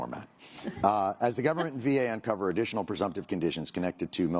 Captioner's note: laughter